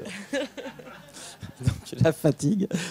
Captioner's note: laughs